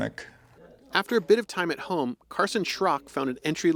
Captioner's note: voice-over